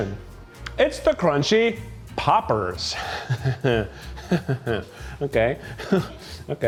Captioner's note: chuckles